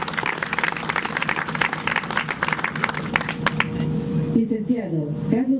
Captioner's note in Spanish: aplausos